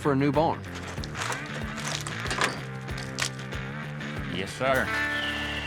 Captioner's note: wood crumbling